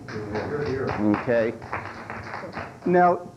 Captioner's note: applause